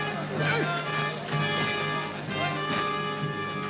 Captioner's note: cheering